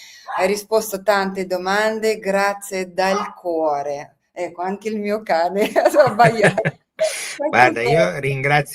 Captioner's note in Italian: risate